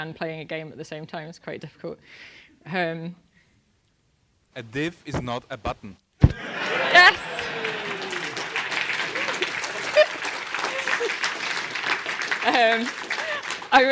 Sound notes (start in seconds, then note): 6.0 laugh; 6.3 applause